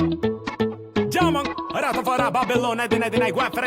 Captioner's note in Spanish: rapea en italiano